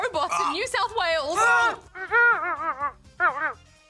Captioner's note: whimpers